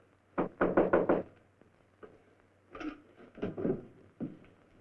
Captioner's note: knocking on door